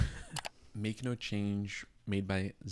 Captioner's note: laughs; computer mouse clicking